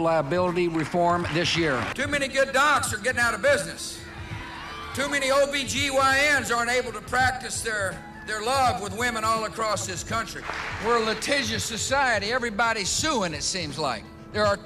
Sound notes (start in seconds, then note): 0.2 attendees applauding; 4.0 audience cheering